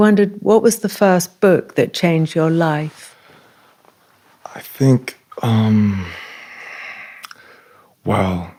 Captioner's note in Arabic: تنهدات